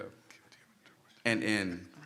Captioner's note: whispering